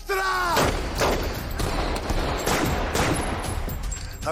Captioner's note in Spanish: Disparos